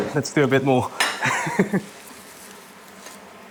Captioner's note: chuckles